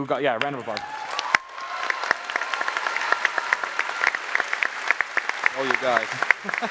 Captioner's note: applause